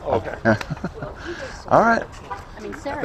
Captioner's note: laughs